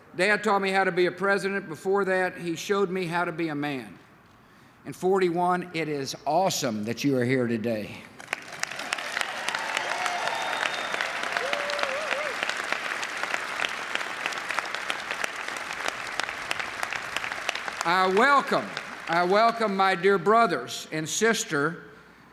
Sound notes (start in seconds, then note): 8.2 applause, cheering